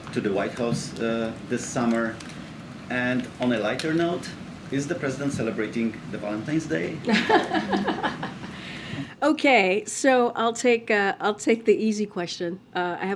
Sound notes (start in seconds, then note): 7.1 laughs